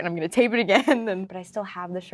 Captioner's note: Lola laughing